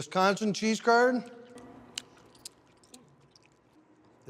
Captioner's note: chewing squeakily